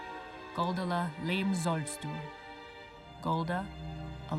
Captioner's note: speaking foreign language